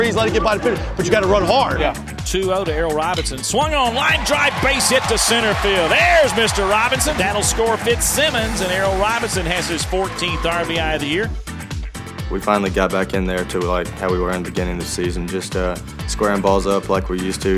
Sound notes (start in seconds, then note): 2.3 voiceover